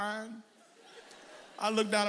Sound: audience laughs

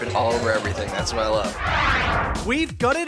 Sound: swoosh

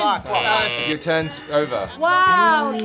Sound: bell blares

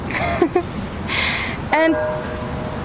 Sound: laughs

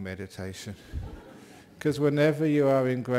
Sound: laughter

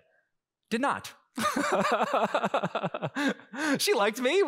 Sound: laughing

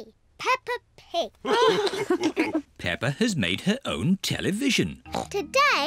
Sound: all laugh

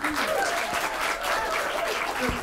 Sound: applause

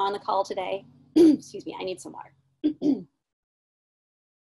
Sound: clearing throat

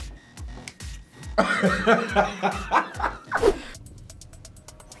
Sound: laughing

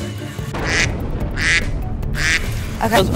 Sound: duck quacking sound effect

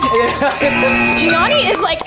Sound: laughs; app buzzes; app chimes

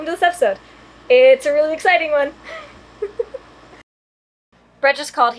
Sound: laughs

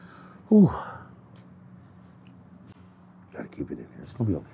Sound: sighing heavily

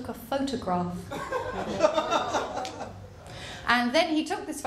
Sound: laughter

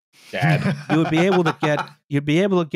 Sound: laughs

